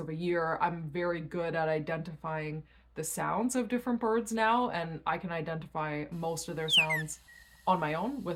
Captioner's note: chirping